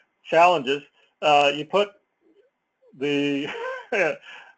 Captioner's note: laugh